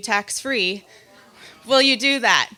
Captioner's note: crowd